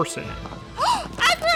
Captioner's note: gasp